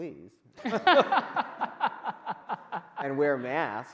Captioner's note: men laughing